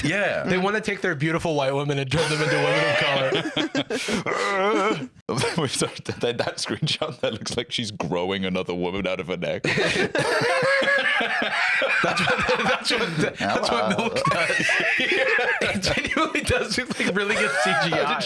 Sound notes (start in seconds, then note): 10.1 laugh